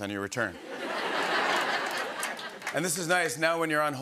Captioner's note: laughter